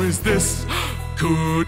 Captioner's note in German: Freudiges Einatmen